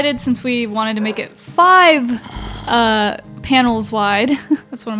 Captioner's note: laughs